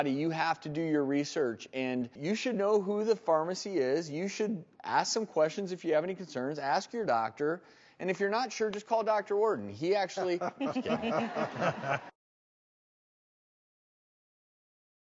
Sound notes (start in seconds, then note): 10.2 laughter